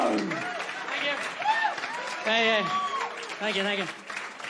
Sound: audience clapping

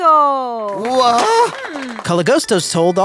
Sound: Psychonauts clapping

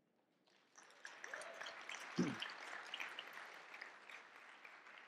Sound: audience clapping

